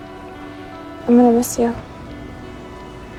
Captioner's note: voiceover